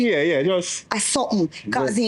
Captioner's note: speaking in foreign language